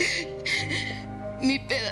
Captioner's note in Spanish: Sollozos